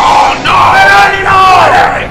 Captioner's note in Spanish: grita